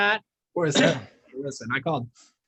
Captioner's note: coughs